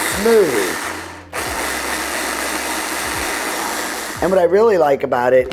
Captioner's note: blender continues whirring